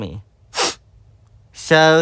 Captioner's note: sniffle